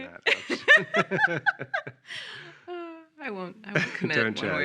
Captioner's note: laughing